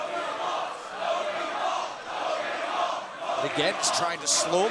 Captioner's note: crowd cheering